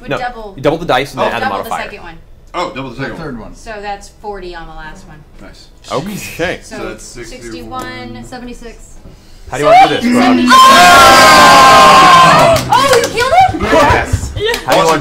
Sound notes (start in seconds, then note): 9.6 all cheer